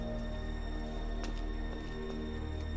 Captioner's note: footsteps